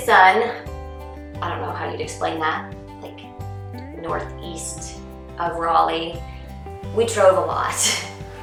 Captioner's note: laugh